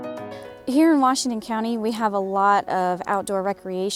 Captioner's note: voiceover